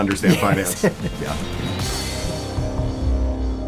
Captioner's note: laughs